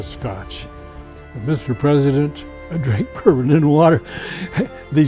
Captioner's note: laughs